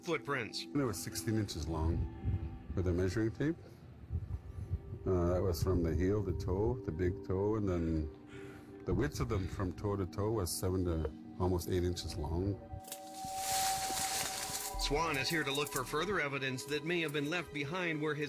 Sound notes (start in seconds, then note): 12.8 twig snapping; 12.8 leaves rustling